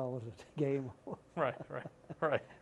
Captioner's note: laughter